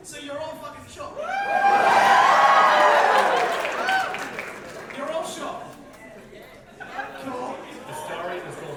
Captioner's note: audience whoops